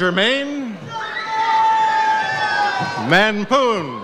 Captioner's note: audience cheers